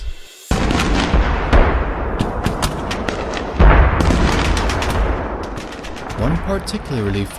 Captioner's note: sounds of battle